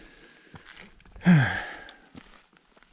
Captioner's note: sigh